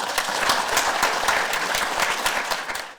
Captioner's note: audience applause